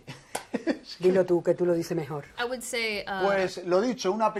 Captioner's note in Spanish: habla en inglés